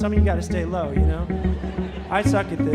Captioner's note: audience laughing